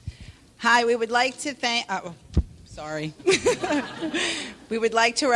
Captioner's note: laughs